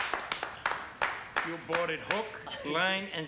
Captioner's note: clapping